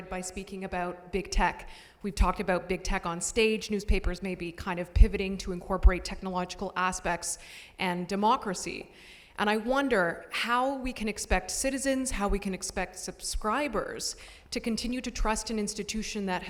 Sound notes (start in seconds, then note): none